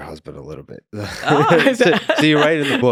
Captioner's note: both laughing